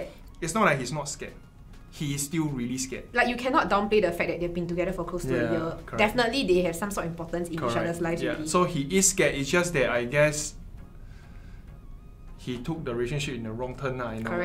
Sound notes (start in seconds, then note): none